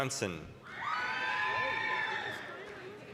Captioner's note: applause, cheering